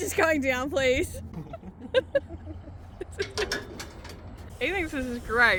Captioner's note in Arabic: مزيد من الضحك بعصبية